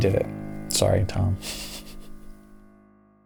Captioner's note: laughs quietly